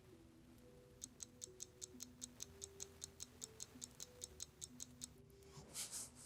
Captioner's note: ticking of a clock